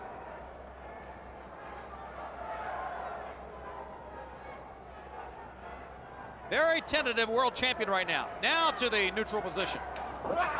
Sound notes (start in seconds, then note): 0.0 crowd chatter